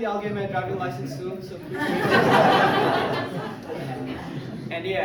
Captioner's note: crowd laughs